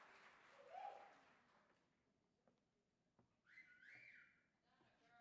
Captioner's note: applause